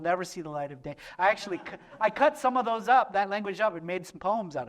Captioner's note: laughter